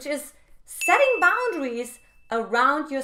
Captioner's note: bell dinging